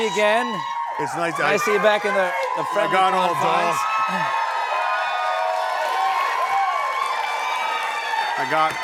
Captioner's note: cheers and applause